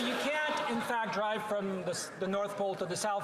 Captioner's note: some Applause